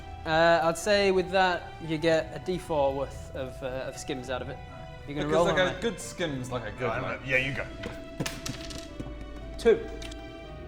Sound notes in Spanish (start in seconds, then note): 7.3 pft pft pft pft pft